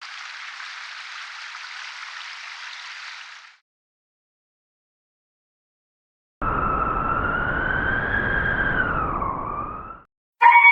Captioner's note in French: Hurlements de loups